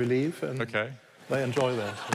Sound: laughter

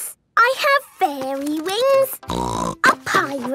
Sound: snorting

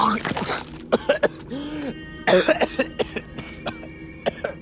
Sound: Travis vomiting; Travis coughing

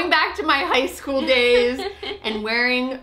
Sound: laughs

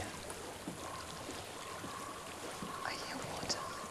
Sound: water flowing

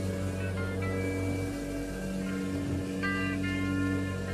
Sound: elevator humming

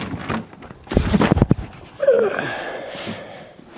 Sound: groan

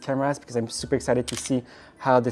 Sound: camera clicking

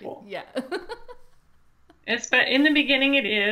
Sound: laughs

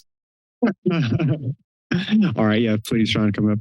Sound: laughs

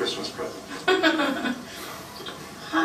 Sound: laughter

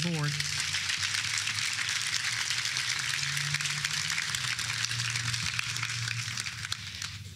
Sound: applause

